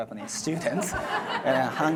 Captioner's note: audience laughs